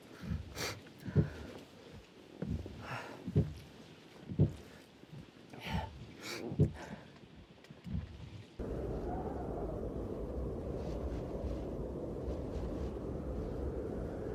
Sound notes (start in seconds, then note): 8.5 wind howling